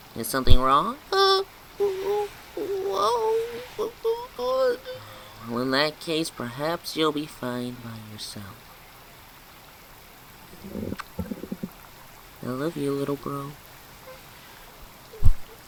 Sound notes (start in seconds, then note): 4.8 sighs